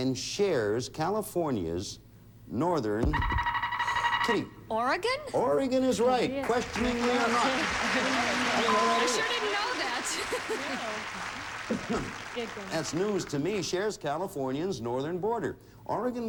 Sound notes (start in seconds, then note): 6.4 audience applauding